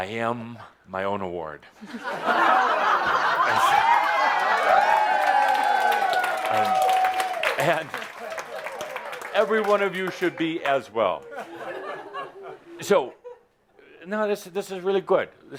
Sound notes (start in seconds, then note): 1.8 laughter and applause